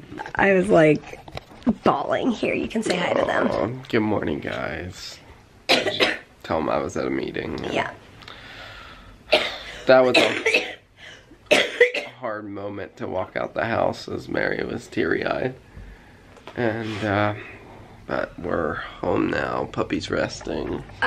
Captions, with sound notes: I was like...bawling. Here, you can say hi to them. Good morning guys. [coughing] Tell 'em I was at a meeting. Yeah. [deep breath then sigh] That was a... [coughing] Hard moment to walk out the house as Mary was teary-eyed. And, uh... But we're home now, puppy's resting.